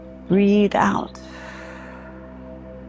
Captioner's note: exhales